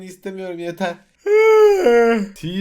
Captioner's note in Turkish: esneme